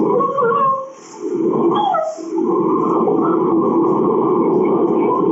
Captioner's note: crying